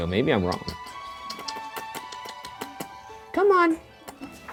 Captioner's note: making kissing sounds